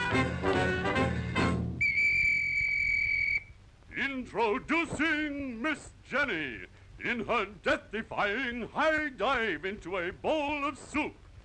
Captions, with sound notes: (Whistle Blows) Introducing Miss Jenny in her death-defying high dive into a bowl of soup.